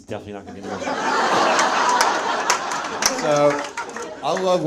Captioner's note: audience laughs